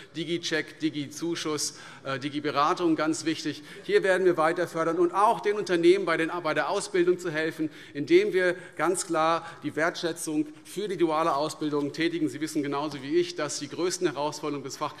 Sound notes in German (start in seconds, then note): none